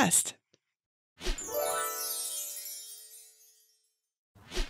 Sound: gentle chiming

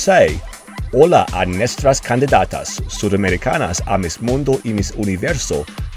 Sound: speaking foreign language

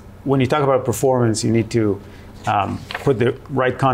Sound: paper crinkling

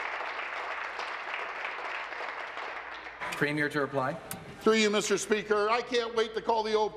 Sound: applause

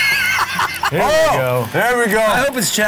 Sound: laughs

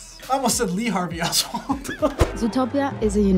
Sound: laughs

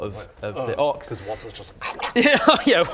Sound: om nom nom

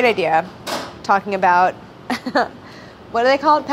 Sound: laughs

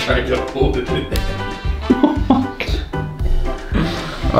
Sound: laughing

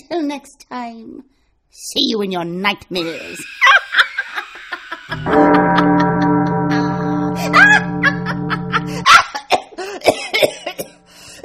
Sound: screaming sound effect

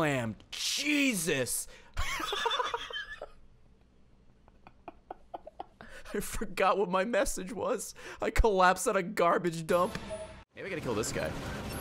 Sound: laughs

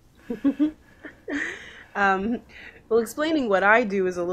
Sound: laughs

